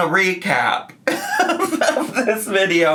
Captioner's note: laughing